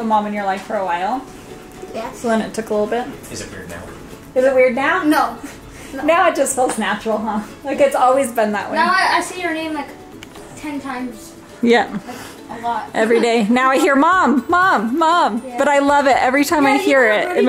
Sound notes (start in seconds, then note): 3.4 whisper